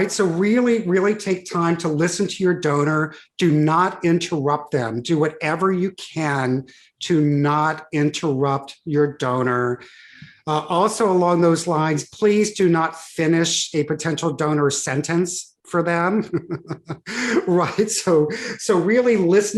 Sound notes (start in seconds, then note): 16.2 laughs